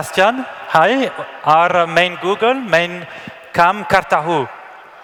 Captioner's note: cheering; Hindi spoken